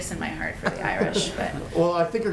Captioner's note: laughter